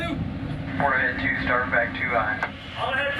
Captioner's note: crewman Over Loud Speaker